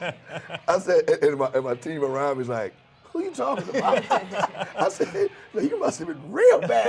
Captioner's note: laughing; laughs